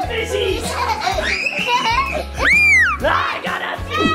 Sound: kids scream

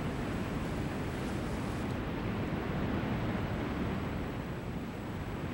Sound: lava gushing continues

